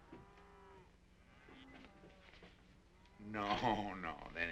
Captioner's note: cows mooing